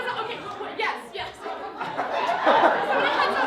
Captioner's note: laughter